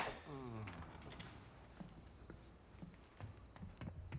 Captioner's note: groans